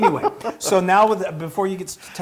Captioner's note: laugh